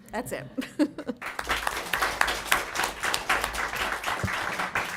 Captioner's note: applause